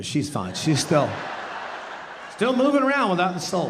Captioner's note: audience laughing